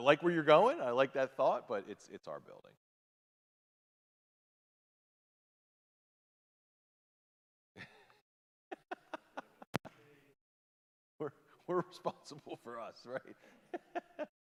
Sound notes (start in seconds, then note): 8.7 laughing; 13.6 laughs